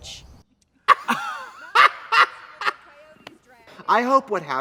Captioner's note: both laugh